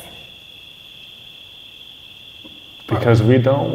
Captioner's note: crickets chirping